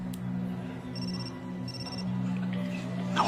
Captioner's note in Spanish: Suena el celular